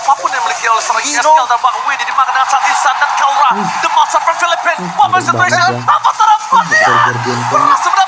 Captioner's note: laughs